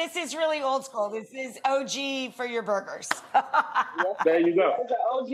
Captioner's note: laughing